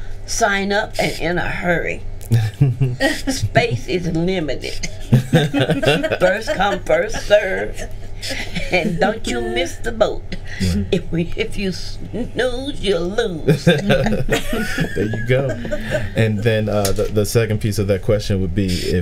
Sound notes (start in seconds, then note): 4.6 group laughing